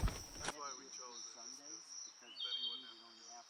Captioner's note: crickets and birds chirping